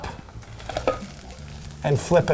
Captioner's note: plate flipping